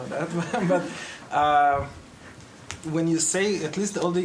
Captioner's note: audience laughs